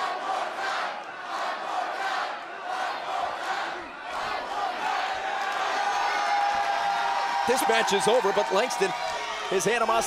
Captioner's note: crowd cheering